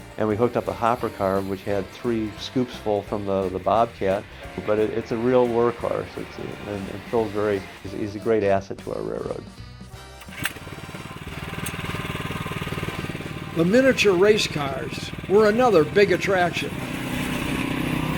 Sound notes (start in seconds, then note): 13.7 voiceover